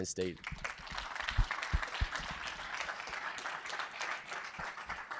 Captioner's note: audience applauding